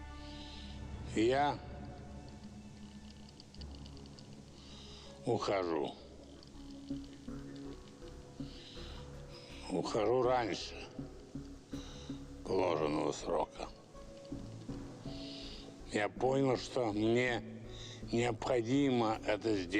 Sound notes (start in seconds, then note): 0.2 wheezing